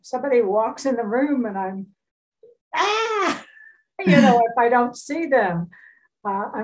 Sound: screams

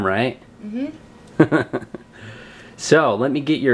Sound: laughs

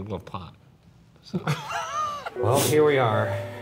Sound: laughing

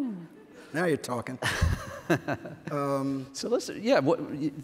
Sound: laughs

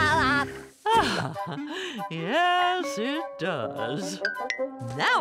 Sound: sighing

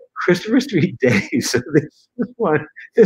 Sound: laughter

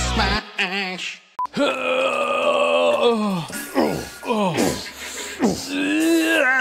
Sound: groaning and farting

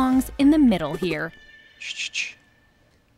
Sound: shushes

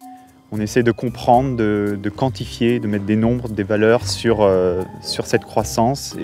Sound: speaking in French

